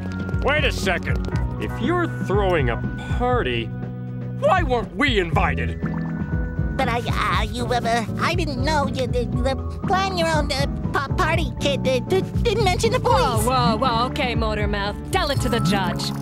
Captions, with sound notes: Wait a second. If you're throwing a party, why weren't we invited? But, I-I you, uh, I didn't know. [stammering] The Plan Your Own P-party Kit did-didn't mention the police. Whoa, whoa, whoa. Okay, motor-mouth, tell it to the judge.